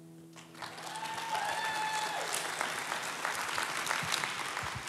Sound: audience applauds

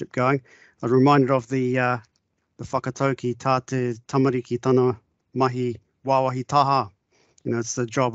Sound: speaking in te reo Māori

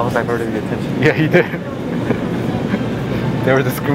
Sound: laughs

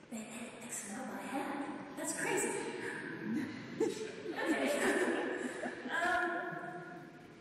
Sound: audience laughs

